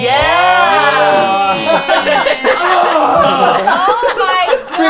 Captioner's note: mimics fart noises